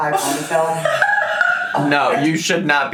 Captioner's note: laughs